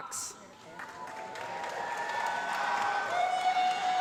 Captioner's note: applause